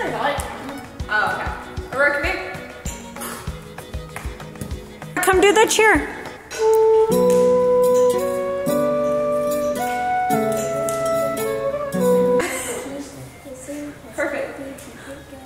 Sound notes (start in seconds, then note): 3.5 upbeat music; 7.9 quietly conversing; 7.9 slow music; 12.4 speaker 3 laughing; 15.2 slow music